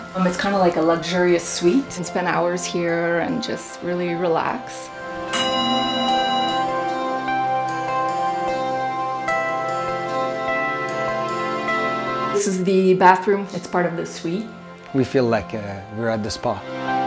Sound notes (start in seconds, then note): 5.0 ringing sound; 6.9 bright music